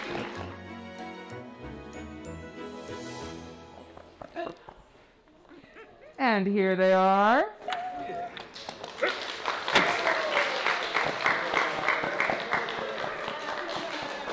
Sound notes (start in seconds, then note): 0.0 audience applauding; 0.0 gentle music; 8.2 audience applauding